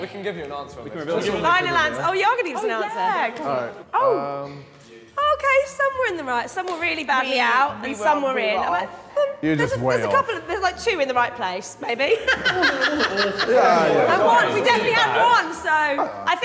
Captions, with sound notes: - We can give you an answer. - Oh, y'all gonna give us answer? - Oh yeah. - Okay, some were in the right. Some were really bad. And some were really off. - You're just way off. - There's like two in the right place, maybe. (woman laughing) We definitely have one, so ...